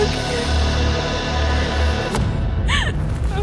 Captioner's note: weeping